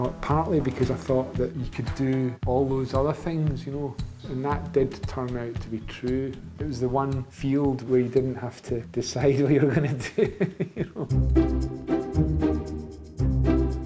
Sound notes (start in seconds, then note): 9.6 laughs